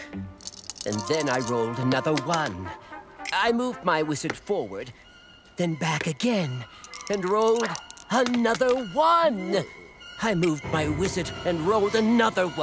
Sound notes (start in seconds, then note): none